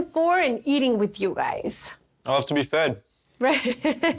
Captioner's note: laughs